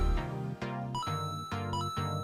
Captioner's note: ba ding!